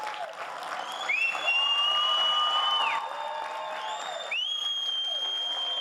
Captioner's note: attendees whistling and hollering